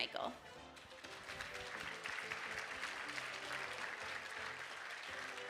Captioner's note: audience applauding